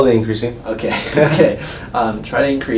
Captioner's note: laughs